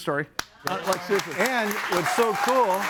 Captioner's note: group applauds; audience applauds; group chattering